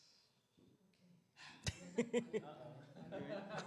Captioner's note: laughter